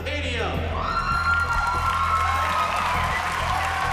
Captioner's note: cheering and applause